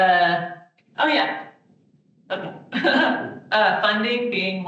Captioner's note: laughing